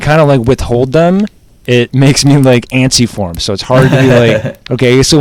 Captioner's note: laughs